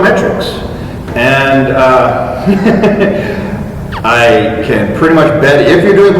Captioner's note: chuckle